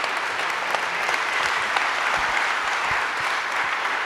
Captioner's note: applause